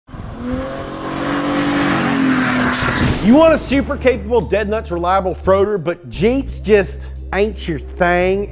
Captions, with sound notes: [car engine revving] - You want a super capable dead nuts, reliable froader but Jeeps just ain't your thing,